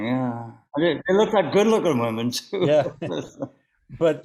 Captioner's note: laughs